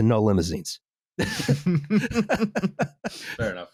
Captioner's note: laughter